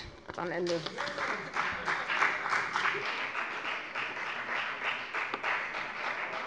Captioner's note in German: Beifall bei der FDP